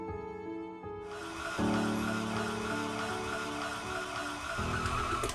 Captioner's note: mixer whirring